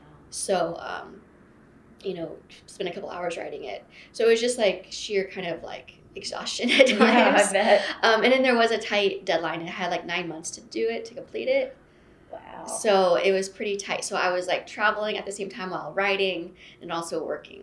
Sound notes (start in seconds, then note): 6.8 laughter